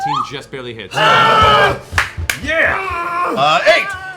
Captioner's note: cheering